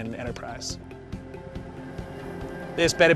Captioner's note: tractor hums